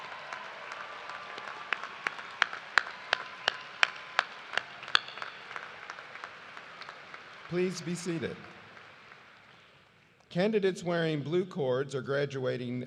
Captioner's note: cheers and applause